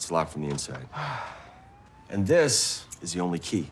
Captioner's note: sighing